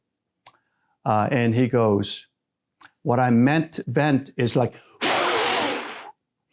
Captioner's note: whooshing